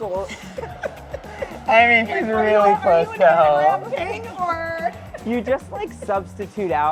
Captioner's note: laughs